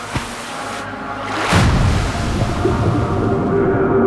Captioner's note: chanting in foreign language; splash